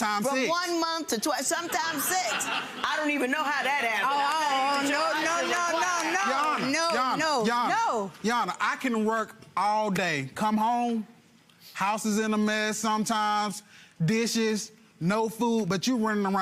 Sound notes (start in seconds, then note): 1.6 audience laughs